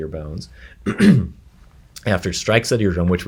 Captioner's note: clears throat